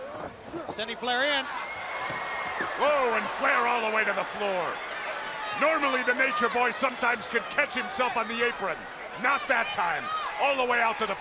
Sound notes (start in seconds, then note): 2.1 crowd cheering